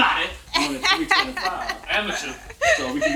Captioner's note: laughing